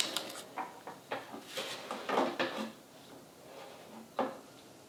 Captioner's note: pieces clicking